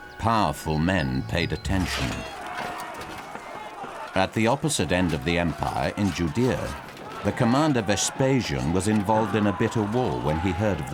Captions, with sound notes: Powerful men paid attention. (weapons clanging) (men shouting) At the opposite end of the empire, in Judaea, the Commander Vespasian was involved in a bitter war when he heard